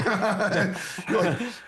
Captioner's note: laughing